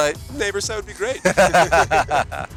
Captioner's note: laughs